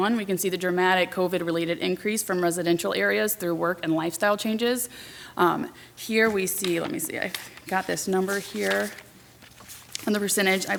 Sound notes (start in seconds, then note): none